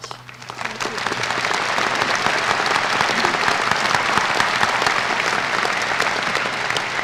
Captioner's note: applause